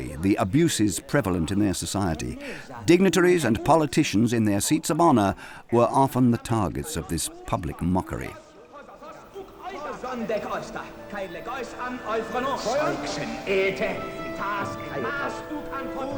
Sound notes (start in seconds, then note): 8.8 people shouting in Greek; 9.7 bright music